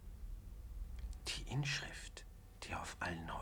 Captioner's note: man whispering in german